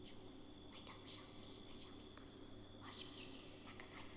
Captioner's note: whispers